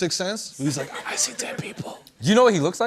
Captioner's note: whispering